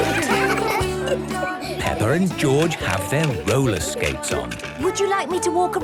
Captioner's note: laughter; giggling